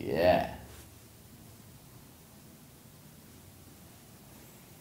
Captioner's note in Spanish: silencio